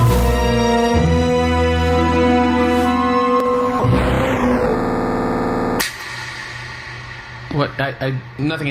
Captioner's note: snaps boomingly